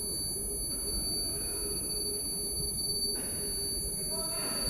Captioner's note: man shouting